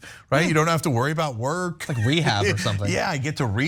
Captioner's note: laugh